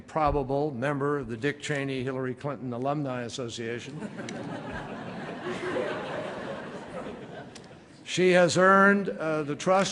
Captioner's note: laughter